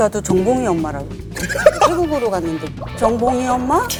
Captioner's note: haha